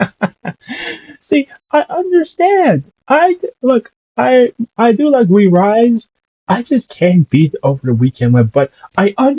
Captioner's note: laughs